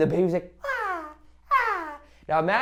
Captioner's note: baby cooing back